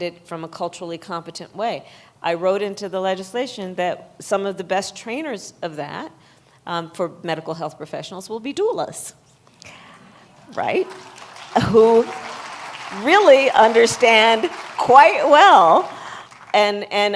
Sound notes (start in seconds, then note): 10.4 applause